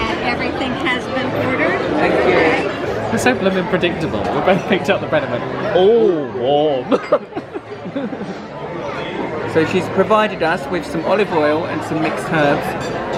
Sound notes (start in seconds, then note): 6.9 laughs